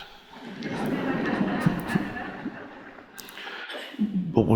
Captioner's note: audience laughs